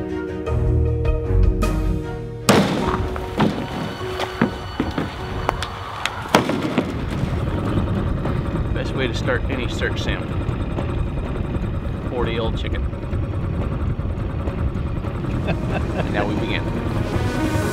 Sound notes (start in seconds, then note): 2.5 car door banging; 17.4 high intensity techno music